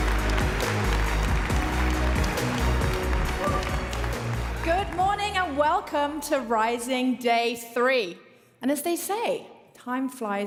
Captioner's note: applause